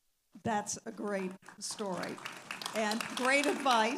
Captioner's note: audience applauding